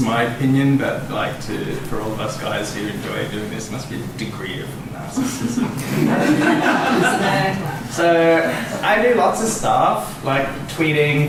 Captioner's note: laughter